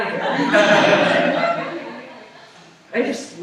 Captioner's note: laughter